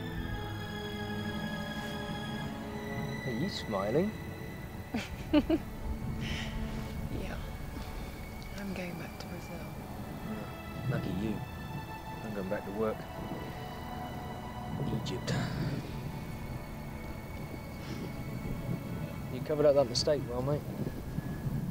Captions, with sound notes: - Are you smiling? - (laughs) Yeah. I'm going back to Brazil. - Lucky you, I'm going back to work. Egypt. - You covered up that mistake well, mate.